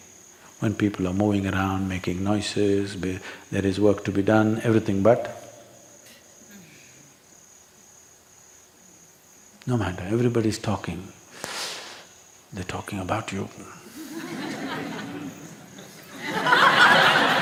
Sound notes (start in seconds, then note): 13.8 laughter